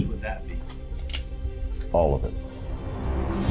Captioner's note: gun cocking; soft tense music